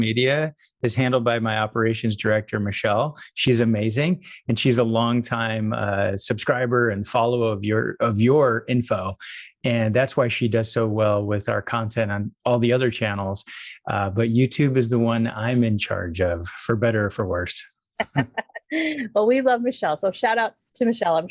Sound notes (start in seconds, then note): 18.0 laughing